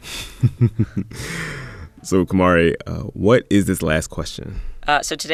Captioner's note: laughter